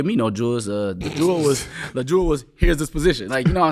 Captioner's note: laughing